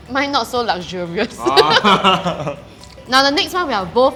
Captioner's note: laughs